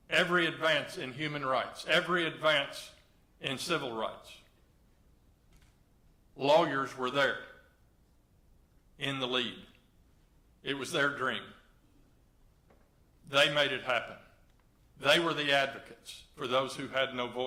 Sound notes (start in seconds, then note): none